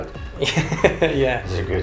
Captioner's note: laughs